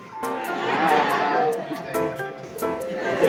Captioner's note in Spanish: risas